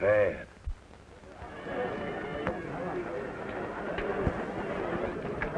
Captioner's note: people chattering